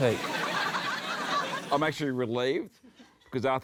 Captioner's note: laughter